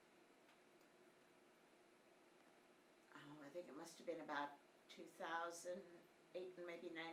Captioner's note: none